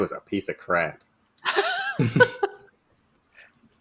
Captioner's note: laughter